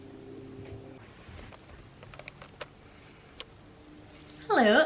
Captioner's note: film roll click noise